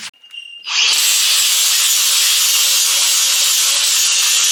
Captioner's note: grinder surges